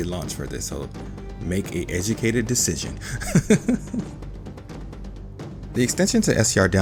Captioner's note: chuckles